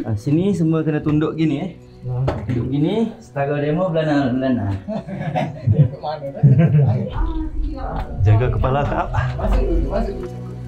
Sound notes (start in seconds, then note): 4.5 laugh